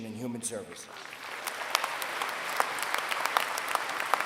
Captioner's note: applause